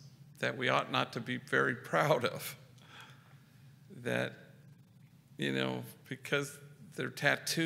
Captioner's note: none